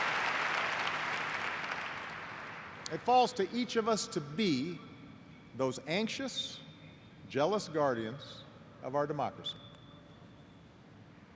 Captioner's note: cheers and applause